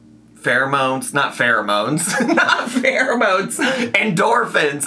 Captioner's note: laughs